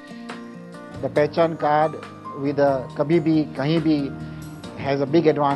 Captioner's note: non-english